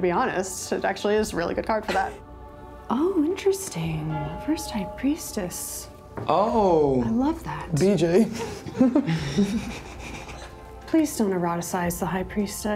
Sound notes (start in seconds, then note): 8.2 laughs